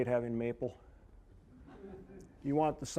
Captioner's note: audience chuckling